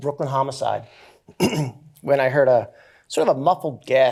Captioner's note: clears throat